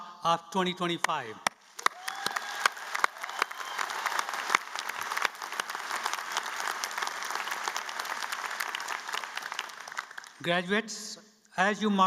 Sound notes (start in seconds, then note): 9.2 applause